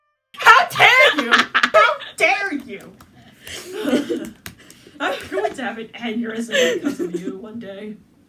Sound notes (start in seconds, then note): 1.0 laughter; 3.5 laughter; 6.5 laughter